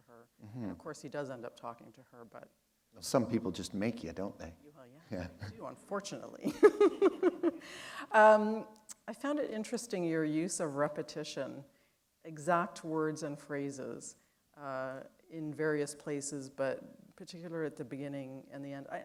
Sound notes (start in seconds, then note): 6.7 chuckle